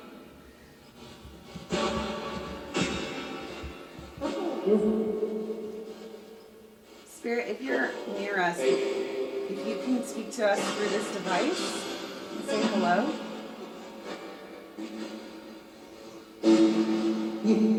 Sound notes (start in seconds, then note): 4.3 ghostly Voice; 12.5 spirit box static